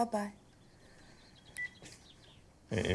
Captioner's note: phone beeping